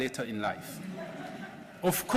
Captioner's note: laughter